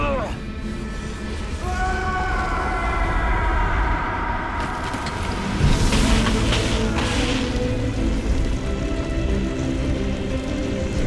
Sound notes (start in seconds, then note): 0.0 grunts; 1.5 Albert screams; 5.8 dramatic music